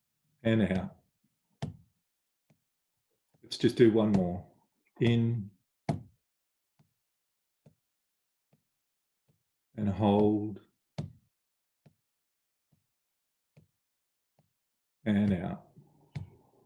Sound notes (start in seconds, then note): 7.2 taps; 15.2 taps